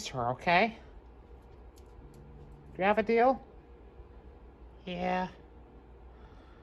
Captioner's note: growling